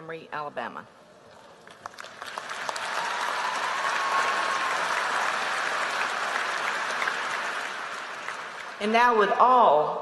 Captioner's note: applause